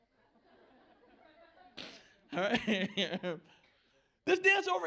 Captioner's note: laughter